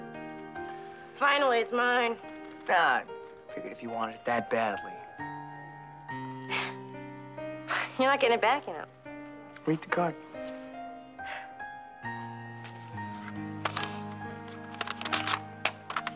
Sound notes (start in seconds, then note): 5.4 gentle music; 5.4 laughs; 10.8 gentle music